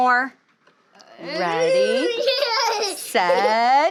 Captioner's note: student laughs